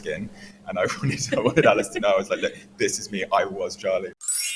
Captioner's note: laughs